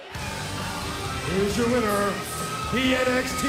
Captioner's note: bell ringing